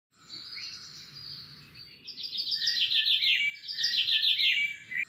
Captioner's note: birds chirping